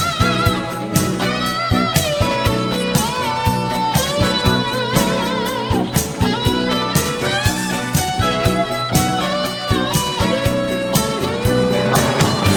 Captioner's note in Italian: Applauso